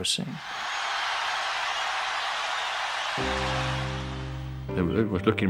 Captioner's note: crowd cheers